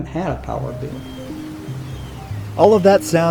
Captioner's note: birds chirping